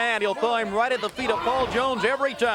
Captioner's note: crowd cheering